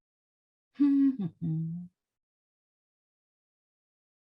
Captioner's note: humming